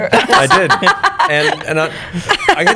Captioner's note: laughter